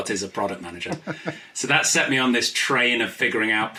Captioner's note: laughs